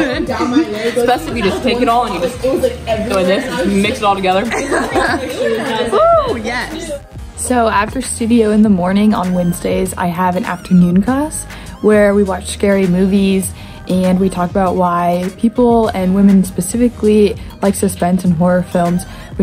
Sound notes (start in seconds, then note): 4.7 laugh